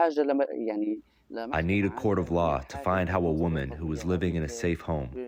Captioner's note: through translator